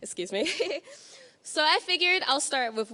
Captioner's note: laughing